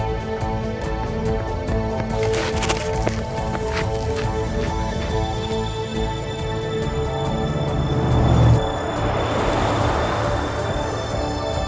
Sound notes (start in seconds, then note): 7.2 engines revving